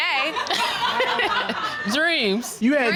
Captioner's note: audience laughing